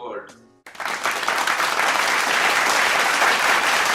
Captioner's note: applause